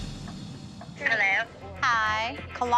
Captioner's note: on phone